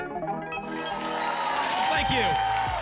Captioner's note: applause and cheering